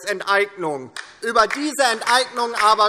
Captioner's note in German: Beifall DIE LINKE